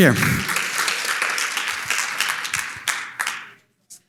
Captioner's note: audience applauding